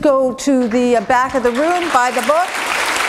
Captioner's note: applause